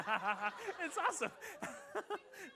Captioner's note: laughter